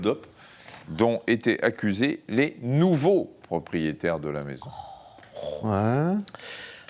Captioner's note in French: grognement